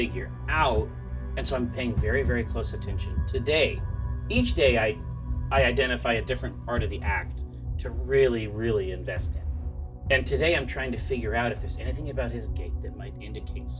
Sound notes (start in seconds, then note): none